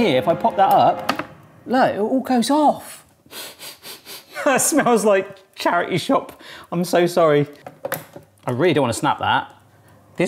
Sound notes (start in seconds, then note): 3.3 sniffs